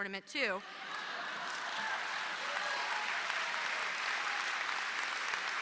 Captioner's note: applause